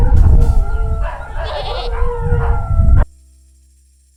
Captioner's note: goat noise